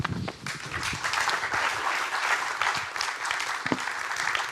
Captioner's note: audience applauding